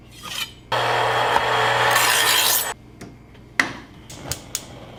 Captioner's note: knife sharpener buzzing; stove top clicking